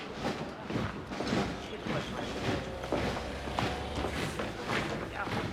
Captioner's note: soldier marching rumbling